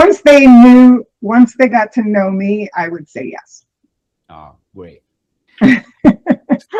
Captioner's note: laughter